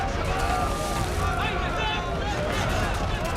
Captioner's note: shouting in arabic